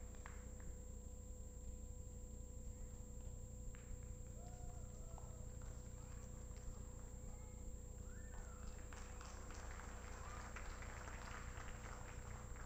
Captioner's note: applause